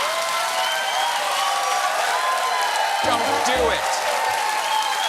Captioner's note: cheers and applause